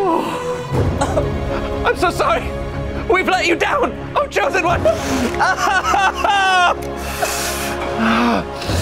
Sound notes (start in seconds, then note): 4.8 men wailing